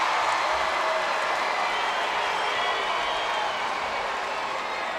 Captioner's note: crowd cheers and boos